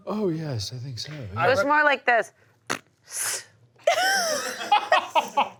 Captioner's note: blows raspberry, "sss"; laughter